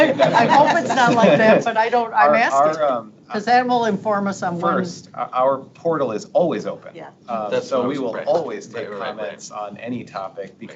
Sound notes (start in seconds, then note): 0.0 board members laughing